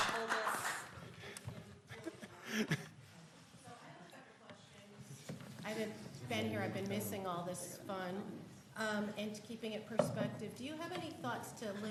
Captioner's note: applause